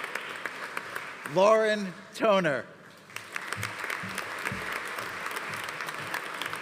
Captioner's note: audience applauding